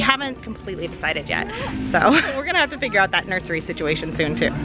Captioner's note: laughs